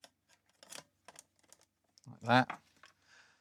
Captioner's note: silence